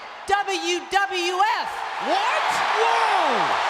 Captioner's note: audience cheering